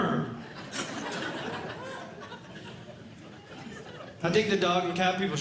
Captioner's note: audience Laughing